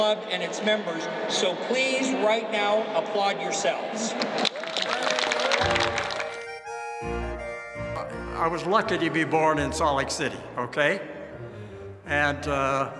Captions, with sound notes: So, please right now applaud yourselves. (crowd clapping) (soft music) - I was lucky to be born in Salt Lake City, okay. And when you had lived with the mountains,